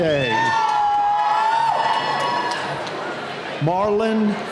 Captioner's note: cheering